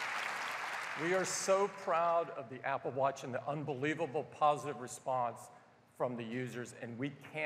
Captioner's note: applause